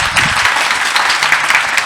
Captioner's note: applause